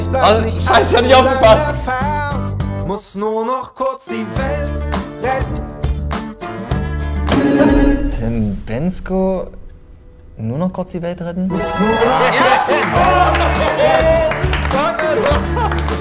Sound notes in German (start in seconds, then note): 13.7 Applaus, Jubel